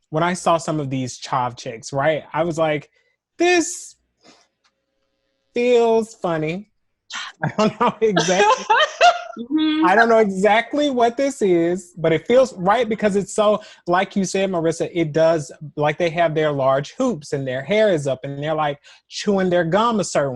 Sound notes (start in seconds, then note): 7.4 laughter